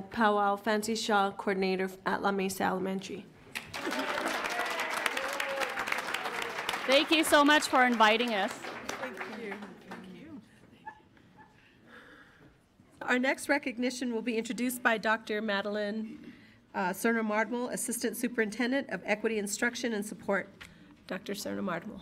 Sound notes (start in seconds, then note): 3.5 audience applauds; 3.6 audience cheers